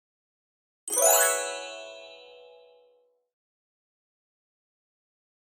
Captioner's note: chime